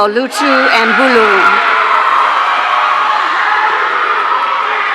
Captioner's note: audience cheering